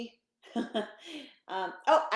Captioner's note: laughing